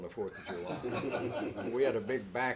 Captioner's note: both laughing